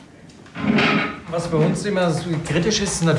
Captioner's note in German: Rumpeln